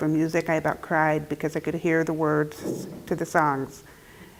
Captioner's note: none